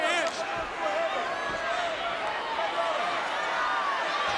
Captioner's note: crowd cheering